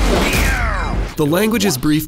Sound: crack

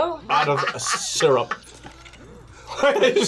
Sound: laughs

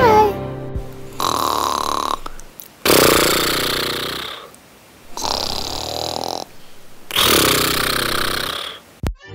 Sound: snores

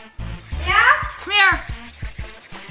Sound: child's Voice

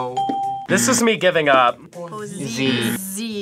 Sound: bell rings; buzzer rings

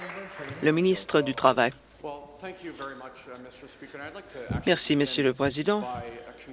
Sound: some Applause

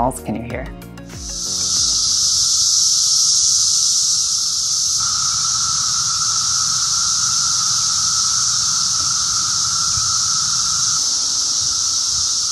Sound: cicadas calling

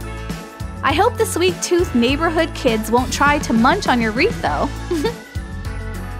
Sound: chuckle

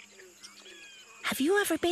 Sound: variety of animals chatter

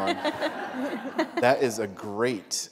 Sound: laughter

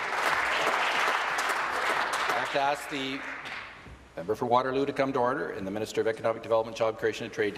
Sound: applause; voice trailing

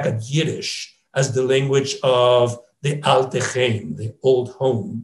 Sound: speaks in foreign language

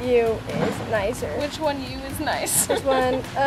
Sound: laughs

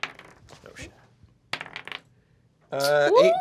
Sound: die clacks

